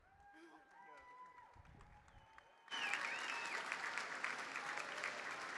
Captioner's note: audience cheers and applauds